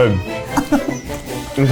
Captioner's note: laughs